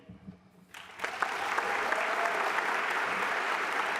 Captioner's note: applause